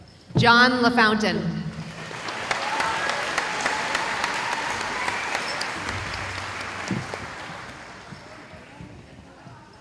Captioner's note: cheering